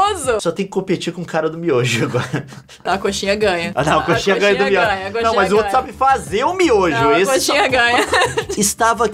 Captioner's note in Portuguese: risadas